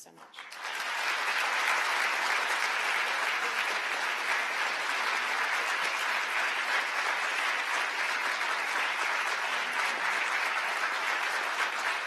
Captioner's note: applause